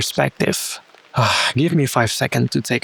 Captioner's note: huft